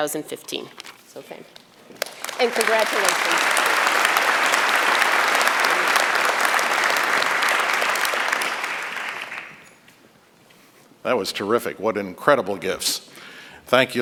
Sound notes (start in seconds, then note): 1.9 applause